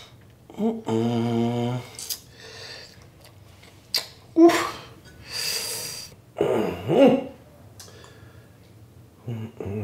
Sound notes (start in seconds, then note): 0.5 man humming; 5.2 exhale; 6.4 man grunts; 9.2 humming